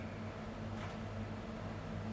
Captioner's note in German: Leises Surren